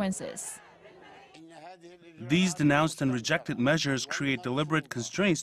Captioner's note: Arabic